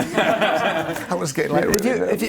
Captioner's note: laughs